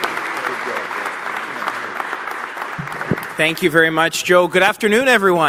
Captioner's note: applause